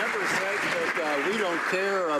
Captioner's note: some Applause